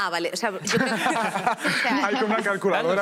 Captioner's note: laughter